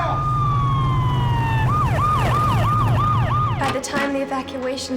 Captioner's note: siren ringing